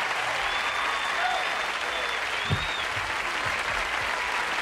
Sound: audience applauds

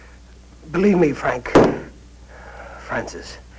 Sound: hits

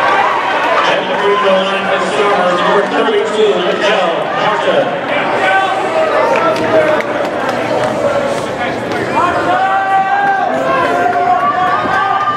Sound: indistinct crowd noise

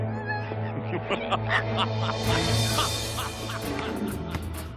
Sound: laughing

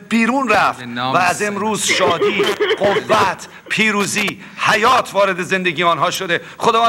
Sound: speaking in foreign language

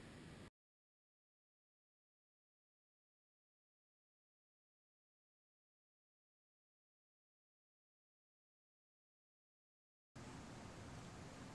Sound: silence

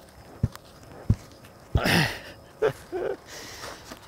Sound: grunting

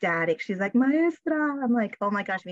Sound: speaking spanish

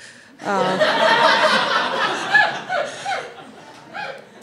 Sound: audience laughs

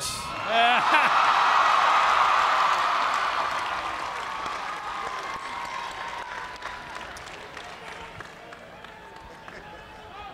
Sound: cheers and applause

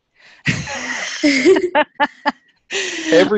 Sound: everyone laughing

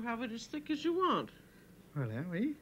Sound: speaking French

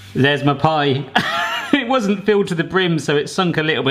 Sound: laughing

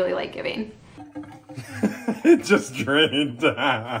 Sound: laughs

